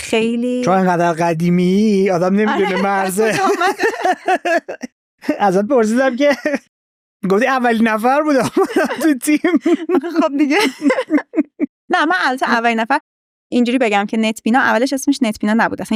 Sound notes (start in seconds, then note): 4.8 laughs